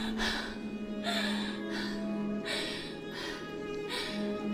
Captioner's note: Connie gasps